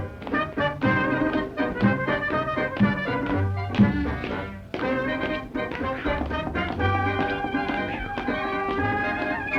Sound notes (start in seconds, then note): 0.0 upbeat jazz music continues; 5.0 footsteps stomping